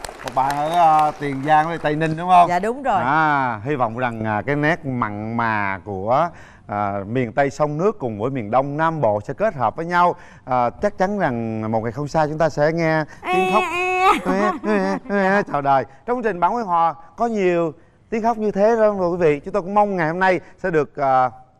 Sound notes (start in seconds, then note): 13.2 mimicking baby sounds